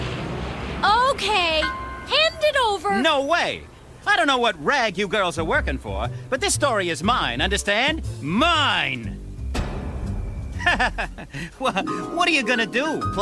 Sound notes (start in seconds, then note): 9.1 laughing